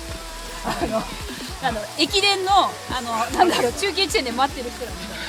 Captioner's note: laughs